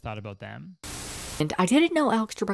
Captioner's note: Static